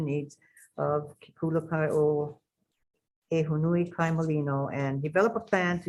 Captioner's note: speaks in a foreign language